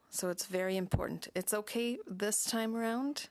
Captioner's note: speaking French